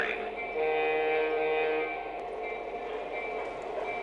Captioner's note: voiceover; horn blowing